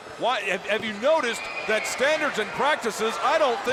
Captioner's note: crowd chatter